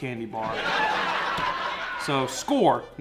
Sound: audience laughing

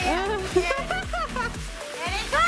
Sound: laughs

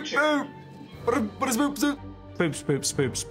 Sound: speaks gibberish

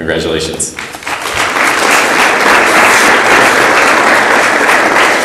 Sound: audience applauds

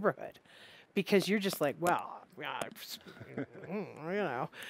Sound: grumbling

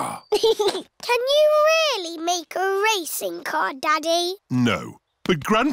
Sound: chuckles

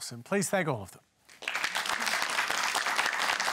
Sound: applause

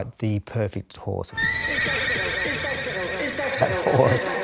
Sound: horse Neighing

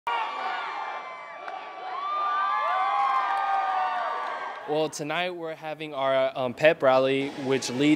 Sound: applause

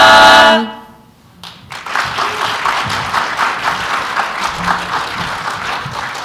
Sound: applause

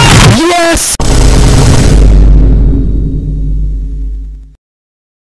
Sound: BOOM x8 - faster than Tommy gun

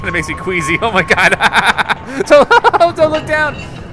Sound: laughs

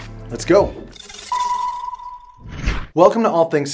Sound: electronic beeping

